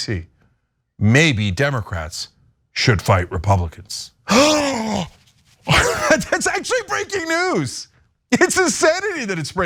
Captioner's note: laugh